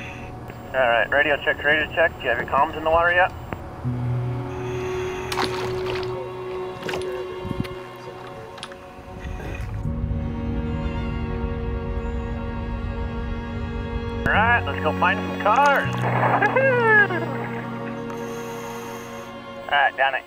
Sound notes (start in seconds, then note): 4.6 water splashes; 5.7 gentle music; 16.3 cheers